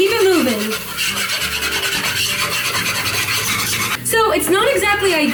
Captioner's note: scraping